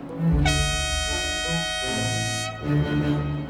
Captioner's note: horn blowing